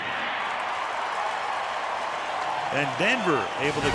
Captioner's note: cheering